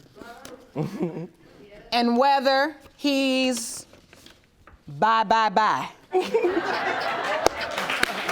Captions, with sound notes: And whether he's bye-bye-bye. (ALL LAUGHING)